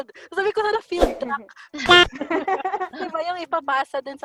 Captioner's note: laughter